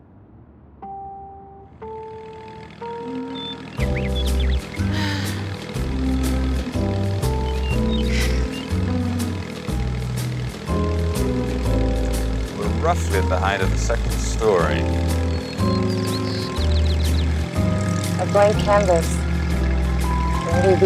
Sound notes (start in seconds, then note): 1.2 quirky music; 3.5 machine whirring; 4.8 Drew sighs